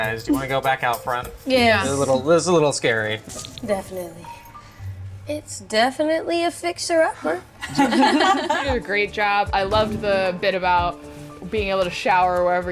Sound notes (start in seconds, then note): 7.6 laughing